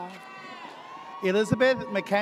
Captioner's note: audience cheers